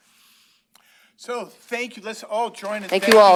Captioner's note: applause